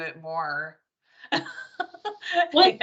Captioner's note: laughing